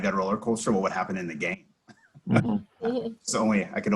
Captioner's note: laughs